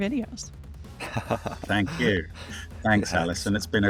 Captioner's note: laughing